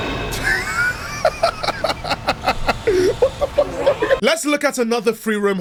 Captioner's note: laughing